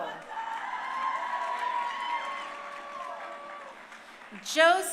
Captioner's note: crowd cheering